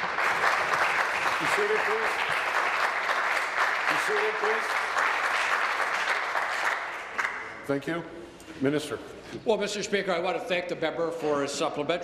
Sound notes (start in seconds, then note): 3.3 applause